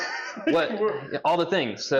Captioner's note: laughs